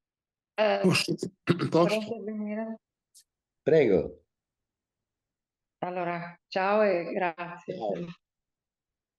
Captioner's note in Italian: schiarire la voce